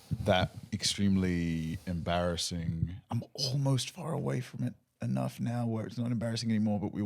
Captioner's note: none